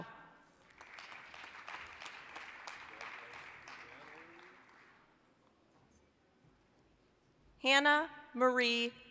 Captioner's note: applause